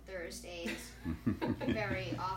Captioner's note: laughing